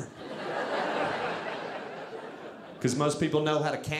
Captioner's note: audience laughing